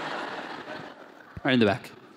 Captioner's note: laughter